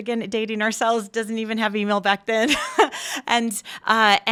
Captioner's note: chuckling